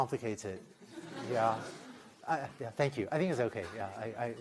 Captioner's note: laughter